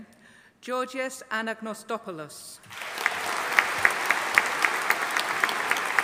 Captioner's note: audience applauding